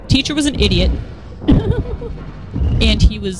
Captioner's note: laughter